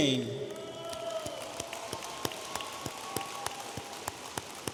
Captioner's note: audience applauding